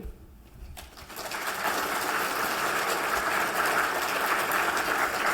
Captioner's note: applause